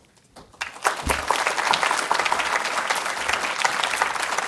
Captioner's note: audience applauding